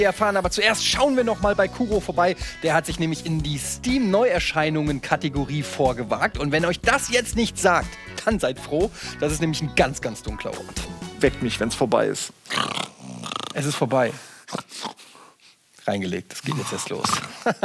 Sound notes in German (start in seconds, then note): 12.5 Schnarchen